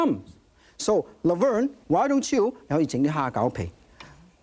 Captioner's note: speaking in foreign language